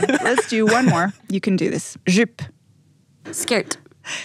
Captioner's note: foreign language